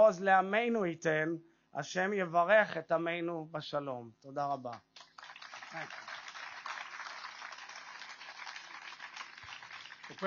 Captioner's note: speaks Hebrew